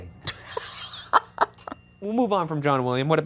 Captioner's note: laughing; bell dings